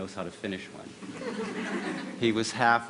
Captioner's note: laughter